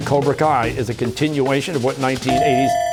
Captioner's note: ringer dings, bell ringing